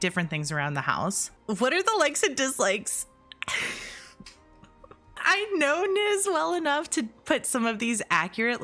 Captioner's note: chuckle